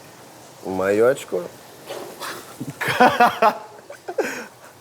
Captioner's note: both laugh